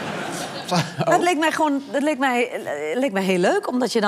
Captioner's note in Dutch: gelach